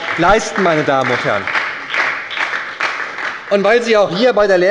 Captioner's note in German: Beifall bei der SPD